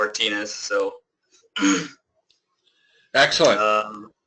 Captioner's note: cough